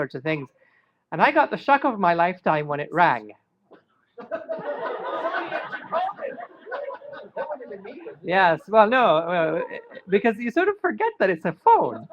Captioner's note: laughter